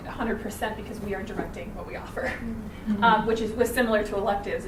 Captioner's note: chuckles